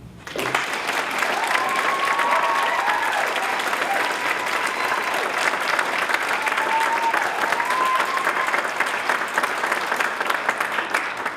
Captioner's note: applause